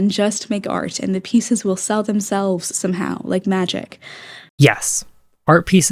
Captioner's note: inhale